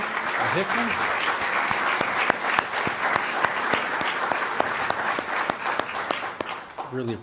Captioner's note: applause